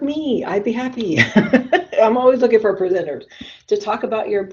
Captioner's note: laughs